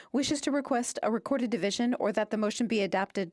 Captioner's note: speaking French